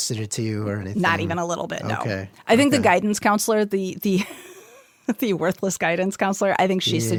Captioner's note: laughs